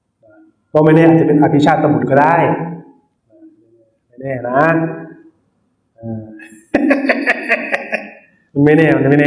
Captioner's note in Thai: เสียงหัวเราะ